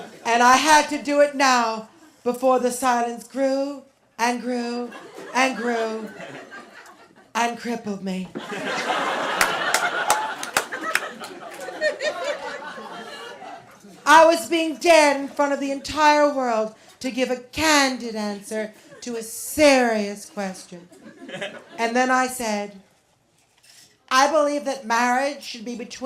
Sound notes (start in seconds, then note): 8.3 laughter